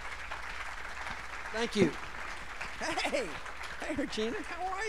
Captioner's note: applause